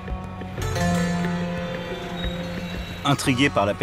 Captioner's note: traffic noises